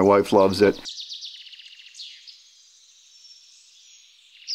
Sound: birds chirping

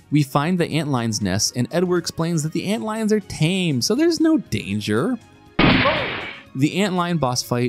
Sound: gunshot

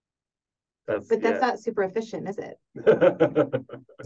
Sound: laughs

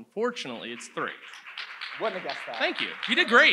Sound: audience applauds

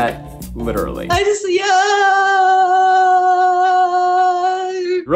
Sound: exclaiming

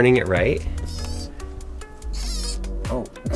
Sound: robot buzzing

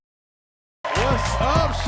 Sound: cheers and applause

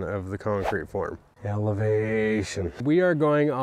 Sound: voice echoing

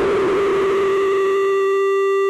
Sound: tone

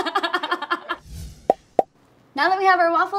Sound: laughing; popping sound

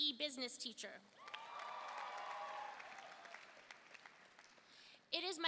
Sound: audience cheering and applauding

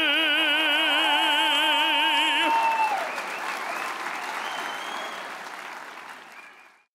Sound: audience cheers; audience applauds

